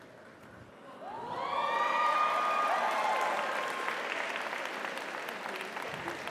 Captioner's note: audience cheers; audience applauds